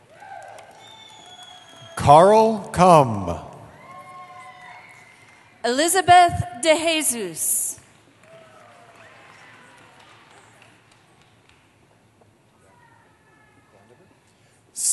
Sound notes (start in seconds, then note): 0.0 cheering; 3.6 cheering; 8.2 cheering